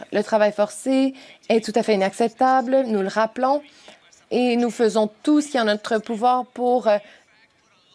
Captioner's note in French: voix de l'interprète